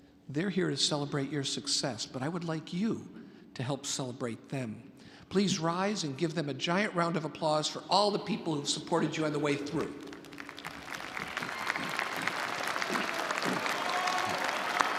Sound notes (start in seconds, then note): 10.0 audience applauding